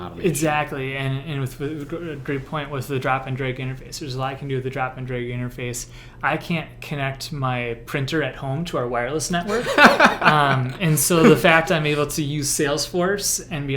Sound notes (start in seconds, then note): 9.5 laughs